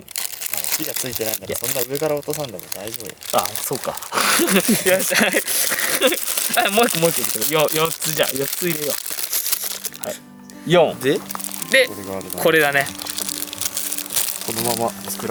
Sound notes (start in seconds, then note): 7.9 laughs